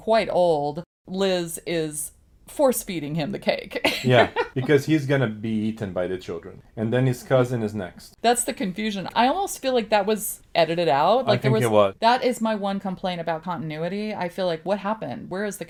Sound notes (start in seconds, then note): 3.8 laughs